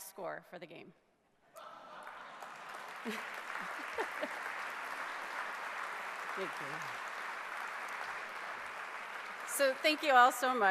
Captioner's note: clapping